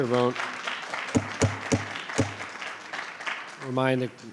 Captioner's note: audience applauding; gavel thudding